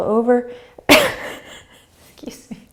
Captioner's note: sneezing, laughing